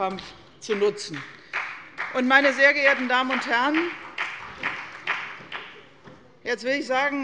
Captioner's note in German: Beifall bei der CDU, der FDP sowie bei Abgeordneten der SPD